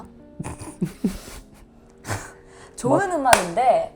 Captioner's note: the members burst out laughing at clear-cut answer